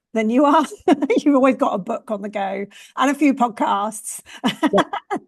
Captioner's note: laughs